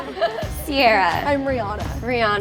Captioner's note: laughs